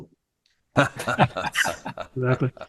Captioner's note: all laughing